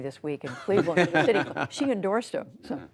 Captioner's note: laughter